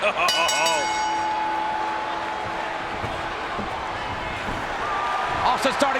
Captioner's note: bell dinging; King laughing